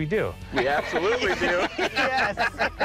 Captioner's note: laughter